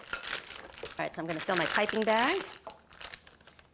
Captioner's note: paper crinkling